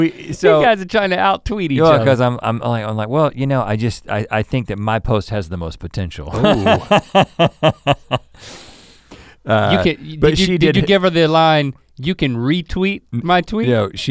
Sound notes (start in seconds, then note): 0.0 laughs; 6.3 laughs